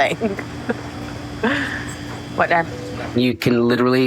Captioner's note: laughs